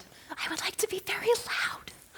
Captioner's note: whispering